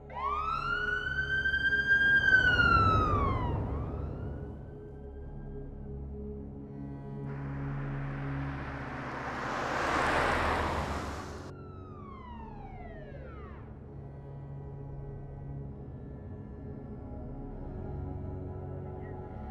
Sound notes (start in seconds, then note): 0.0 ominous suspenseful music continues; 0.0 police siren wails; 6.8 car engine roars; 11.9 police siren wails; 14.9 ominous suspenseful music continues